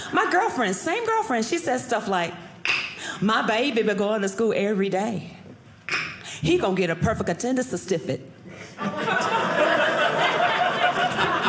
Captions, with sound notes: My girlfriend, same girlfriend, she says stuff like, (tongue clicks) "my baby be going to school "every day. (tongue click) "He gone "get a perfect attendance "stu-stiff-it." (audience laughing)